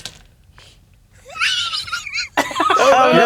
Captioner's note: laughing